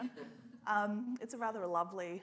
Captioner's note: scattered laughter